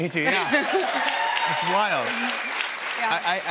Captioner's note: cheers and applause